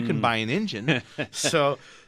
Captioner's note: laughs